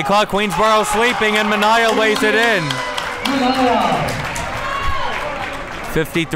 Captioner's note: crowd cheers